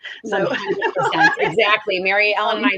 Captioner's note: laughs